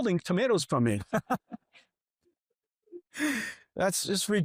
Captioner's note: chuckles